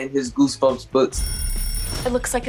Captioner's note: clock alarm